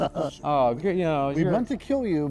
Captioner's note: all laughing